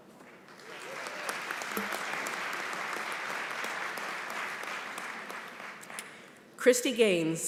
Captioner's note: applause